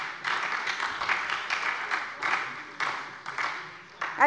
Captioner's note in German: Beifall bei der SPD